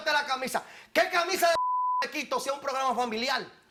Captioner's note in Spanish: Bip